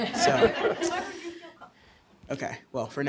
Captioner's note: laughter